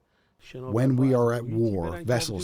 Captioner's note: through translator